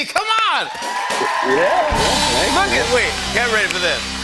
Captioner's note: cheers and applause